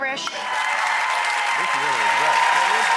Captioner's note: audience applauds